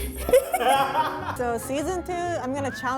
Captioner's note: laughter